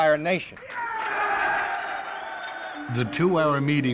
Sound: wild cheering

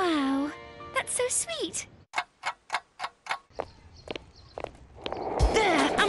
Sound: clock ticking

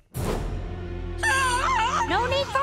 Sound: screams

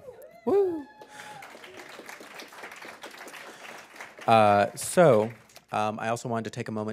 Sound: applause

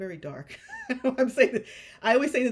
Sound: chuckles

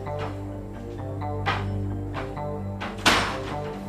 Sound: footsteps receding

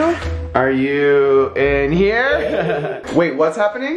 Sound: laughing

